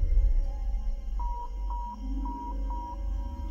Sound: thud; beeping

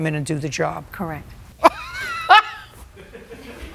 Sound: laughs; laughter

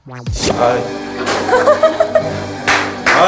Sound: laughing

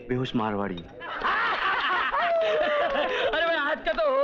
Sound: laughs

